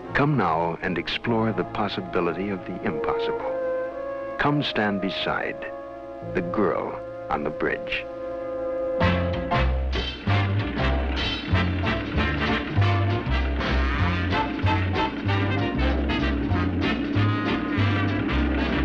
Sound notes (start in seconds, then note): 8.9 big band music; 11.1 engine roaring